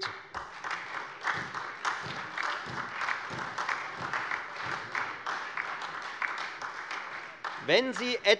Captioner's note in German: Beifall Freie Demokraten und vereinzelt SPD